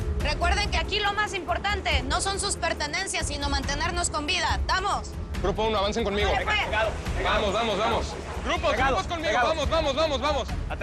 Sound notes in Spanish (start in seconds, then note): 6.9 Hablan al unísono